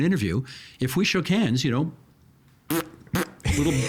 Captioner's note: blowing raspberries